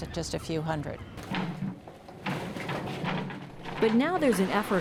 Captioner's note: cart rattles